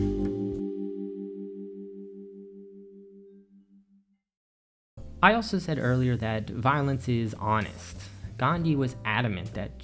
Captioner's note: transition ding